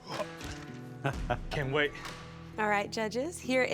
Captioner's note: judge laughs